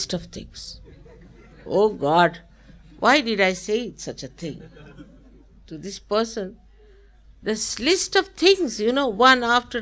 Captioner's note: laughter